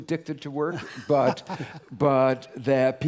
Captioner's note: laugh